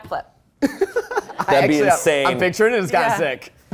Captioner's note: laughs